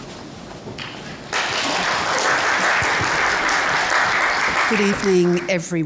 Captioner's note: audience applauds